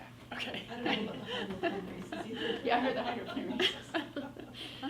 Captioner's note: everyone laughs